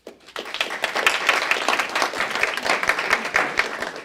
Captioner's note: applause